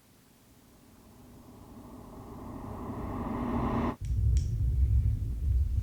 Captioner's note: ascending whooshing